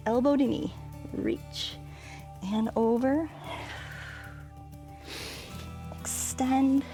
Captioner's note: exhales and inhales